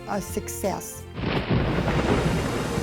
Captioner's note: thunder clap